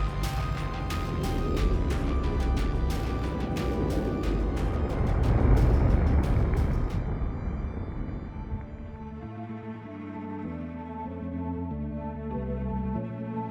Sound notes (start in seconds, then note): 5.0 explosions rumbling; 9.2 gentle celestial music